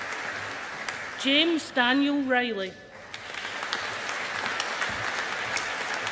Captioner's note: audience applauding